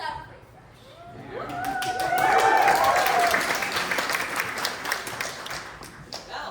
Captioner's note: cheering